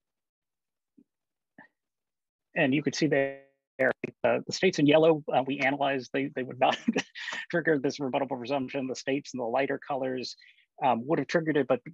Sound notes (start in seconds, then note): 6.7 laughter